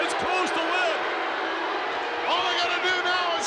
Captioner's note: crowd boos